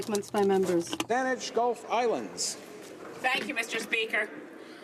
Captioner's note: speaking in french